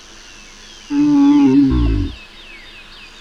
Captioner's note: dinosaur noises